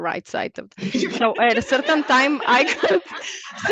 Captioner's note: all laugh